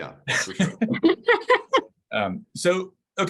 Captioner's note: laughing